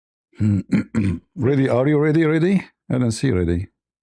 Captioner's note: clears throat